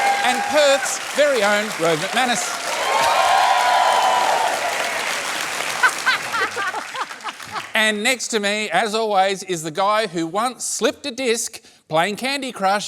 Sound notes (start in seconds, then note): 2.4 cheering and applause